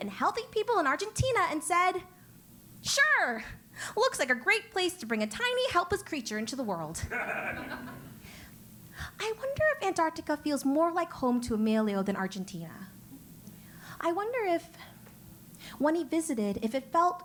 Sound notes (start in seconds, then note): 7.0 laugh